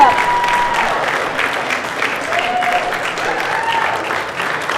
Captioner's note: cheers and applause